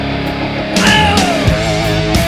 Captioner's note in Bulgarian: Ох